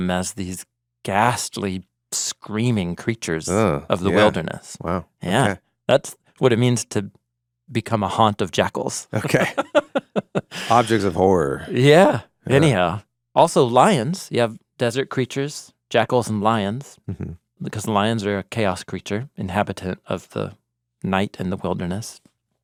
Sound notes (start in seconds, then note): 9.1 laughing